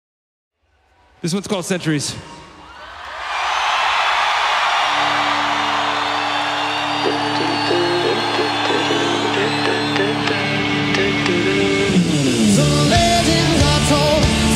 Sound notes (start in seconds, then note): 2.8 crowd cheers; 5.1 rock music begins